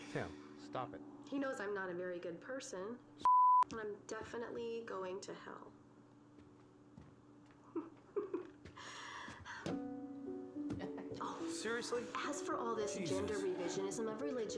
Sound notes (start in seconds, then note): 7.7 giggles